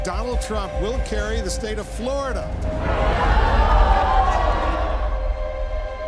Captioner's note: upbeat music continues; crowd shocked